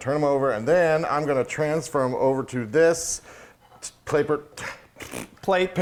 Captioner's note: stammers